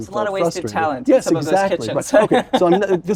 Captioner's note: laugh